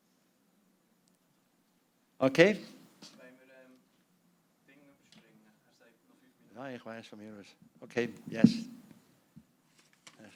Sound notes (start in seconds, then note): 3.0 non-english speech